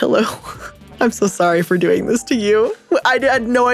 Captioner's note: laughing